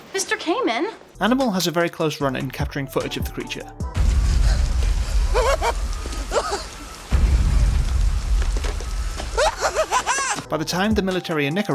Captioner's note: hysterical laughter